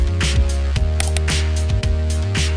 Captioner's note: upbeat music; mouse clicks